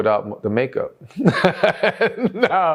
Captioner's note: laughs